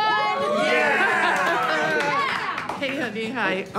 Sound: cheers and applause

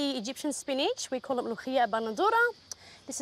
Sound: speaks foreign language

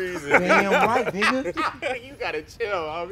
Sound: laughing

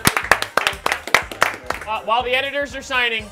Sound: applause

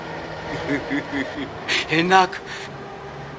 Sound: laughing

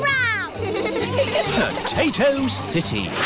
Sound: all giggling

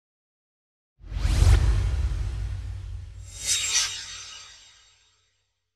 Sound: swoosh

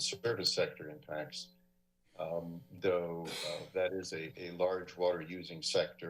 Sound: sneeze

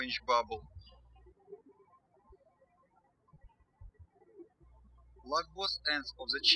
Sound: birds chirping

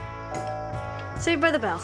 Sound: doorbell rings

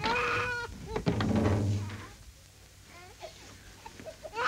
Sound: baby crying

